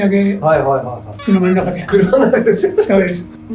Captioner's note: laughs